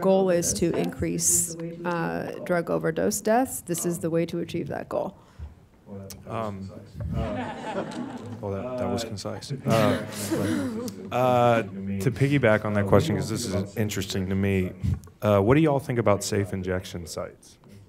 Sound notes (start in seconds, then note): 7.1 audience laughing